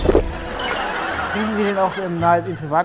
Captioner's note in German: Lachen